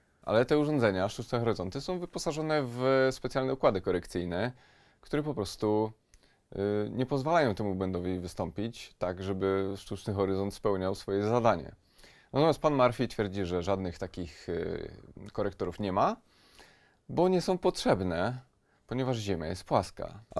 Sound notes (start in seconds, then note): none